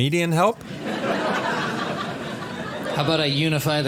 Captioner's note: audience laughs